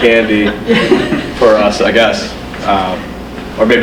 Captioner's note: crowd laughs